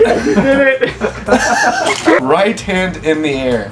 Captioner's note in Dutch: Gelach